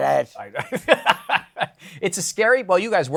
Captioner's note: laughs